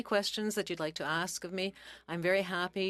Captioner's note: speaking in French